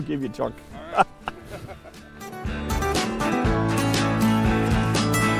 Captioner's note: laughter